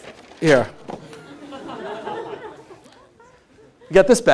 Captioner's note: laughter